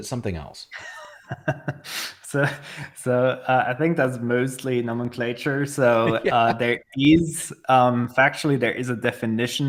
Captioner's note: chuckling